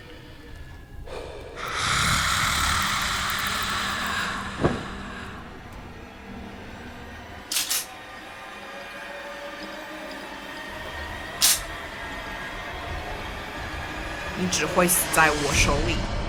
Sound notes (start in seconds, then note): 1.0 Zheng deep breath; 7.5 gun hammer clicks; 11.4 gun hammer clicks, bullet does not fire; 15.5 Mandarin language